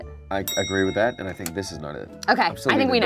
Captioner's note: bell clicking sound